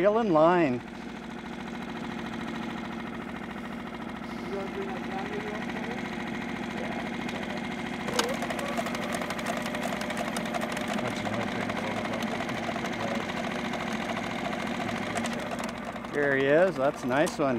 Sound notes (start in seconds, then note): 11.0 boat engine idling; 13.3 electric motor cranking